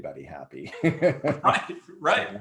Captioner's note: laughs